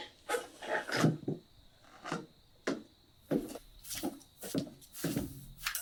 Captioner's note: footsteps tapping